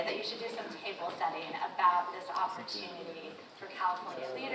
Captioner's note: none